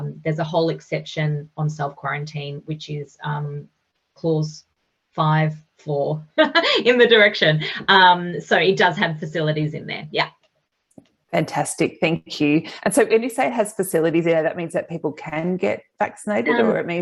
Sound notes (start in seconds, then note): 4.8 chuckles